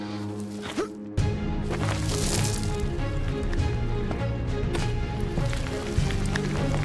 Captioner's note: dramatic tense music; Asher groaning